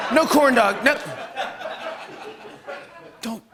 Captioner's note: laughter